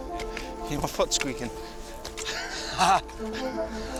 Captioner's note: laughs